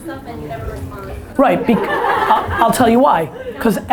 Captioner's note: audience laughter